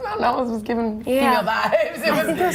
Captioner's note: laughing